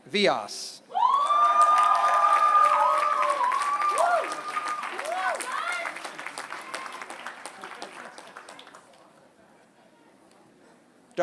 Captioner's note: applause